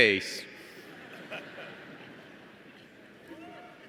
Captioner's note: laughter